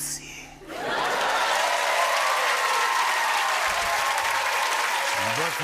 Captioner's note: cheering and applause